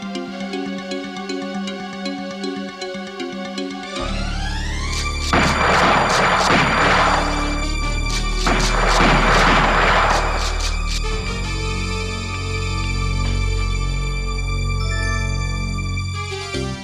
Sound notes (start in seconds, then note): 4.3 dramatic music; 4.8 gun firing; 14.6 tense music; 16.6 suspenseful music